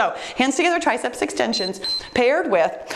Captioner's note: timer beeps